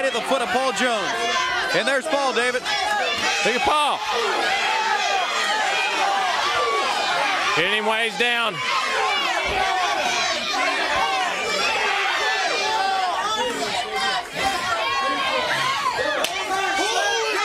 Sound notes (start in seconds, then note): 1.4 crowd chatter; 4.7 crowd chatter; 8.0 crowd chatter; 14.9 crowd chatter